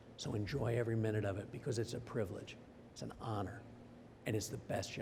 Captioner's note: none